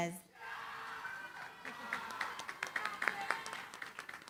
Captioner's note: cheering, applause